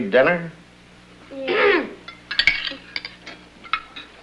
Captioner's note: clears throat